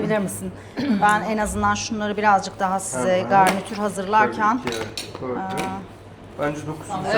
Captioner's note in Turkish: boğazını temizler